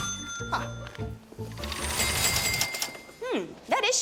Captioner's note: cash registers dinging